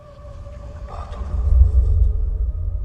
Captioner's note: whisper